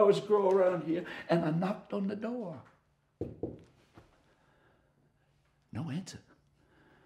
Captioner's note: knocking